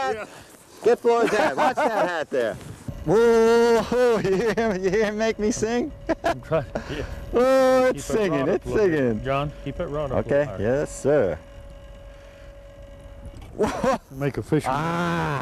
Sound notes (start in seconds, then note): 6.0 laughter